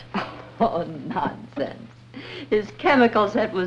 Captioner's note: chuckles